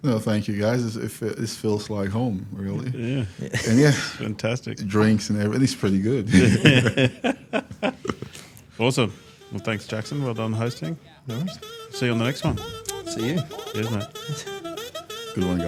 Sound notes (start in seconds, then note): 6.2 participants laugh